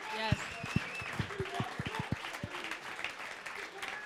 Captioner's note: crowd applauding